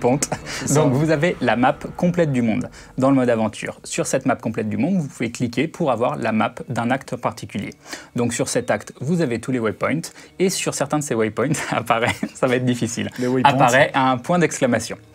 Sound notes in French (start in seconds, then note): 11.5 rires